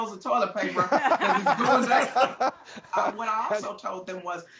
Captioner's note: everyone laughing